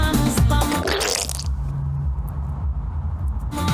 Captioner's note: splash sound